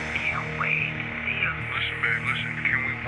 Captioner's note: on phone